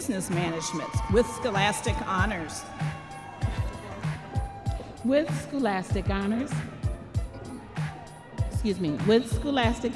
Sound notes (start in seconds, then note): 4.2 audience members cheering